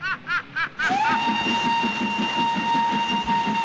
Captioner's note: whistle blowing